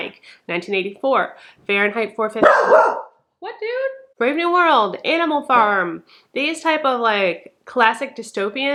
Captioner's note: dog barks